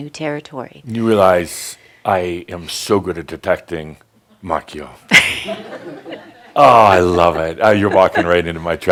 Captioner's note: some chuckles